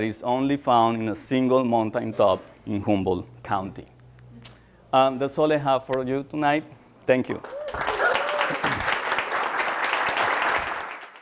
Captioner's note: applause